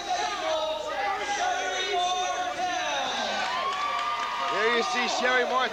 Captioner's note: crowd cheering